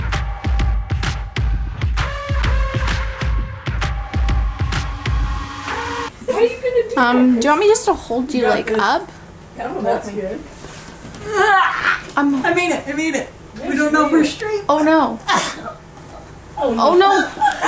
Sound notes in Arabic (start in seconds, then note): 11.2 همهمات